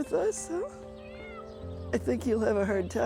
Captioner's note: cat meows